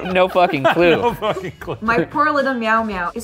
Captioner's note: laughs